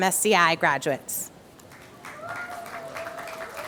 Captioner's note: applause